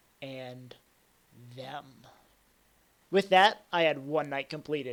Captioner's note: none